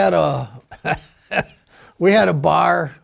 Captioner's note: laughing